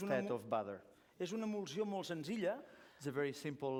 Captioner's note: non-english speech